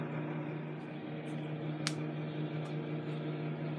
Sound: joint cracks

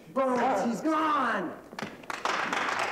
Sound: applause

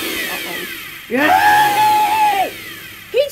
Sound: shrieks

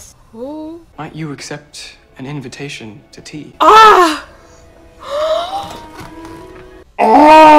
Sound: gasps

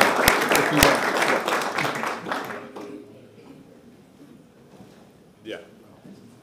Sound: applause

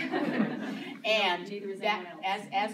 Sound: laughter

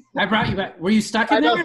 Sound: laughing

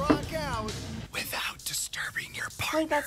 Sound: whispers

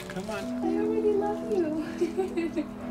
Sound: laughter

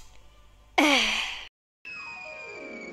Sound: sigh

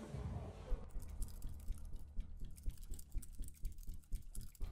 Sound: computer keys clicking

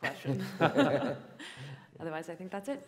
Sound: laughter

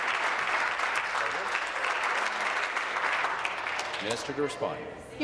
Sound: applause

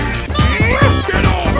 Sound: mario groans

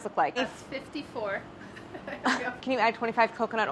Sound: laughs

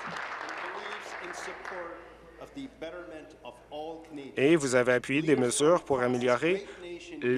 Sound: applause

